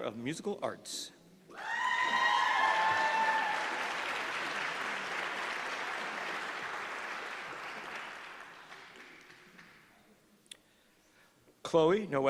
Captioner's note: applause